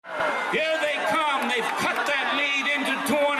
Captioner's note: cheering in stands